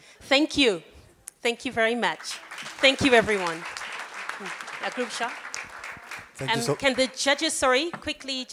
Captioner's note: applause